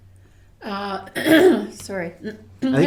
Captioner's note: clearing throat